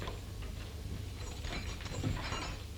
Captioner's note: keys jangling